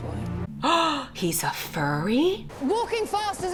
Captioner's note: gasps